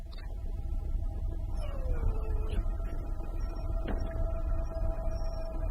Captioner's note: dog whimpering